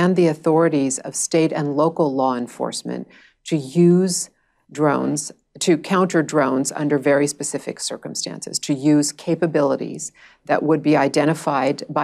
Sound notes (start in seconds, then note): none